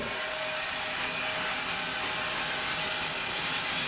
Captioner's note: saw whirs